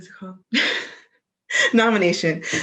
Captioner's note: laughs